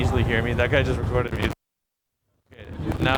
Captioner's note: crackles